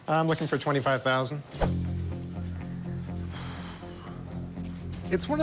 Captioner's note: suspenseful music; sighs